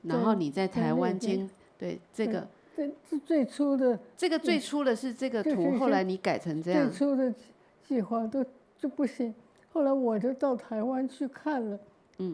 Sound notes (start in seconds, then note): 3.6 Mandarin; 7.8 Mandarin